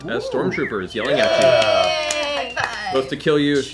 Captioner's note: cheering